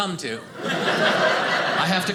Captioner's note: audience laughing